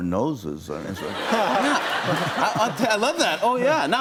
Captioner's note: laughter